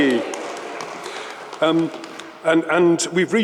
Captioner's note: audience applauds